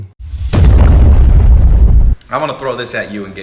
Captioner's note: explosion